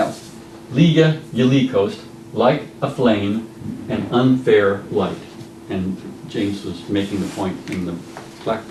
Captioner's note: speaking Old English